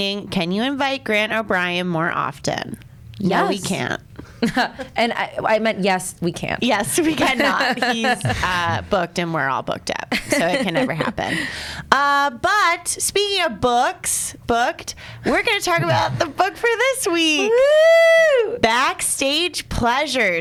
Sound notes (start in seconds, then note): 4.4 laughs; 7.0 laughs